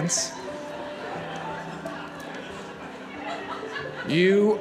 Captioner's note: audience laughs